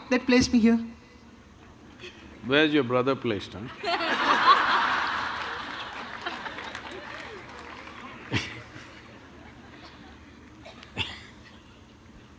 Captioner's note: laughter